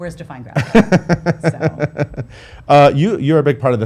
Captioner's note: laughs